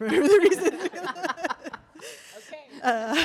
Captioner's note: laughter